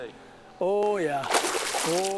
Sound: big Splash

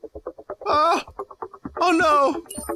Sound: in Morty voice

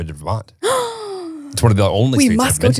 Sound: gasps

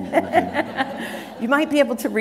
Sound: laughter

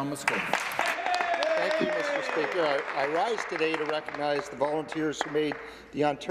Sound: applause

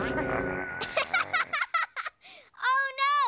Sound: growling

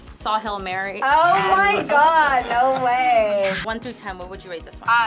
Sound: laughs

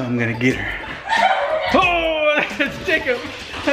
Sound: laughing

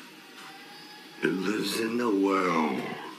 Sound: distorted

